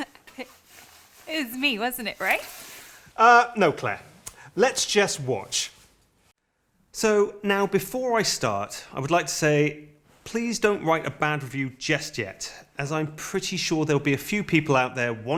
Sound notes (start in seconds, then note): none